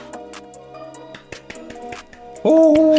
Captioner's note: clap clap clap clap clap